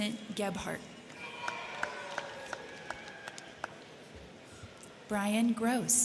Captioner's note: crowd cheering; crowd clapping